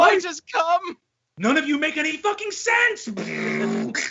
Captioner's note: grunts